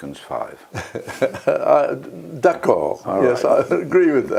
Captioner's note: laugh